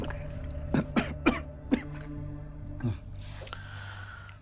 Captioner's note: coughs